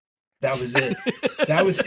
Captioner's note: laughter